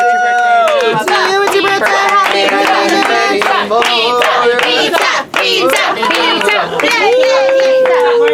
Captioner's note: chanting: Pizza! Pizza!